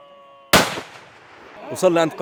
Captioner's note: shots fired